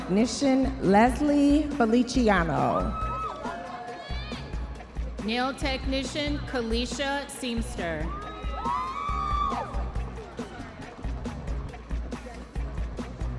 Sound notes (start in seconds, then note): 4.2 audience members cheering; 10.3 audience members cheering